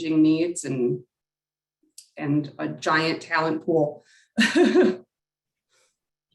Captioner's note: laugh